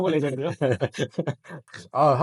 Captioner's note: laughs